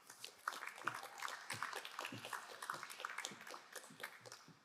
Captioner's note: crowd applauding